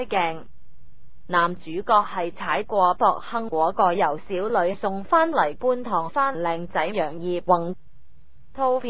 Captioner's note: Cantonese